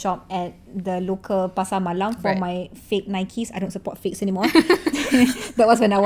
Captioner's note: laugh